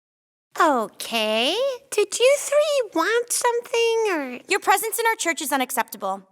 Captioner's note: none